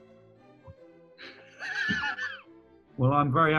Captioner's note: laughing